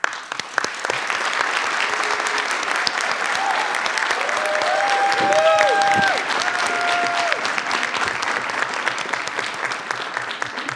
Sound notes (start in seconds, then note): 0.3 all applaud; 4.6 audience cheers